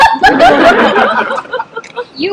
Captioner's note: laughter